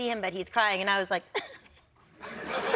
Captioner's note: laughter